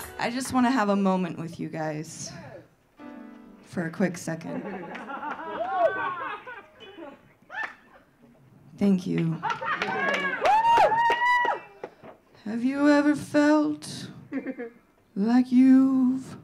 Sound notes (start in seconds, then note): 2.9 piano playing; 4.4 audience laughing; 9.4 audience laughing; 9.4 audience cheering